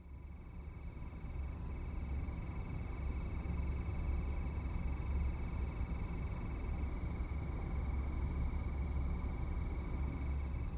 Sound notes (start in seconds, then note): 4.1 crickets chirping